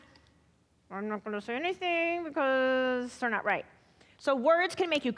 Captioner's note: quietly